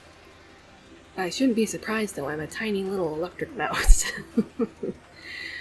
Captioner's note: laughs